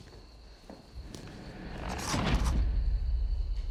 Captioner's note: banging